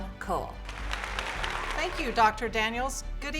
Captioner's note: applause